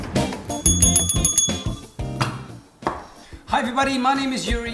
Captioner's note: bell ringing